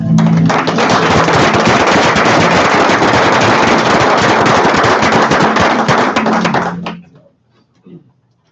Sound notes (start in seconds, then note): 0.0 applause